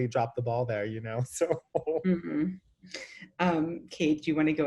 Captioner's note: laughs